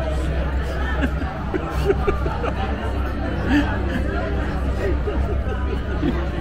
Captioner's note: laughter